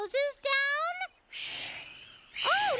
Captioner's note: breathing